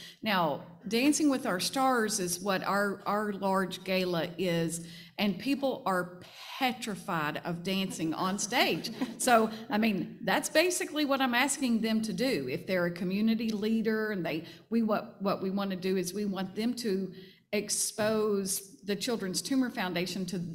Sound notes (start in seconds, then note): 8.8 panel laughing